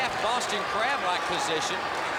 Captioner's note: crowd cheering